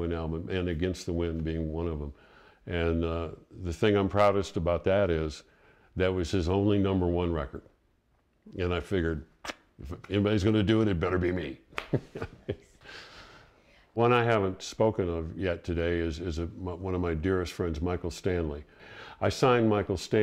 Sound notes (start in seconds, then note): 11.7 laughs